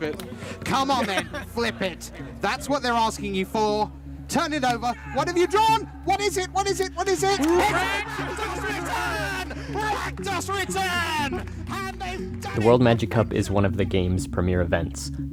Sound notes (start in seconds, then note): 4.4 cheering in the background